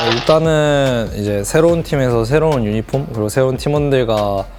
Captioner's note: BuZz